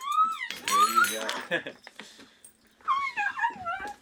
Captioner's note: utensils clanking; laughs